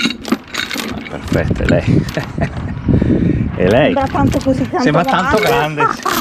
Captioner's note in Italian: risate